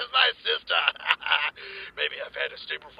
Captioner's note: laughs